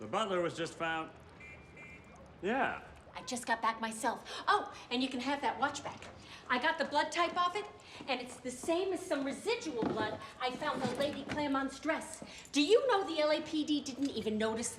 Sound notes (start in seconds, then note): none